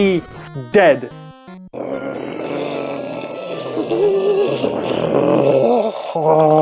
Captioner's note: otherworldly guttural screeching